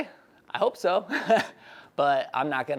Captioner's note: laughs